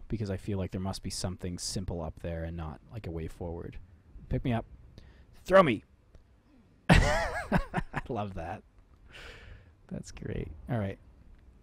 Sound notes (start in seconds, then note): 6.9 laughing